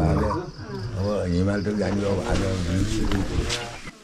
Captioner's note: indistinct chatter